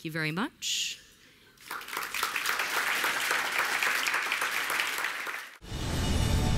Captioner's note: applause